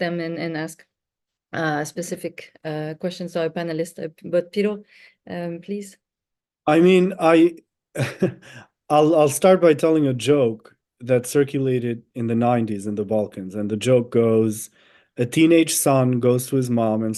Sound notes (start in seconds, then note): 7.9 chuckles